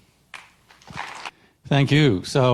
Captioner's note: audience applauding